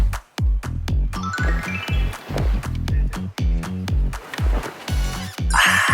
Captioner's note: gulping immediately